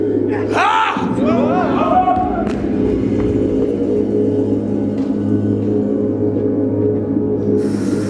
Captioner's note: yelling